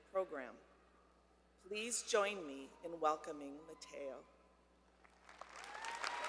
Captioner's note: applause